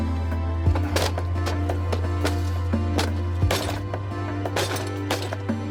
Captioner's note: television clattering